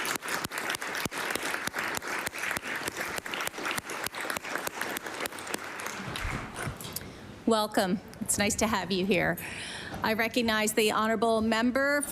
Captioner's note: applause